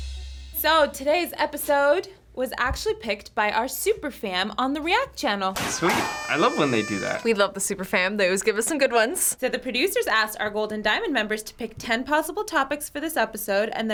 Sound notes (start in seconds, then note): 0.0 industrial intro; 5.6 poppers popping, kazoos blowing